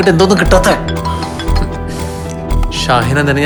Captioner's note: mobile rings